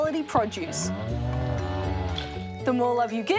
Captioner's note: cows moo